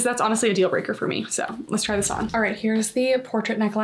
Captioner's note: graphic whooshing